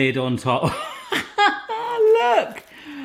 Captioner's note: laughing